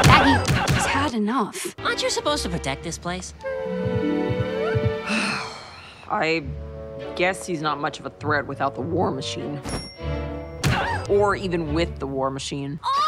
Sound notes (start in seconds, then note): 5.0 sigh